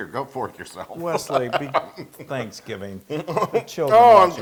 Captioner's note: laugh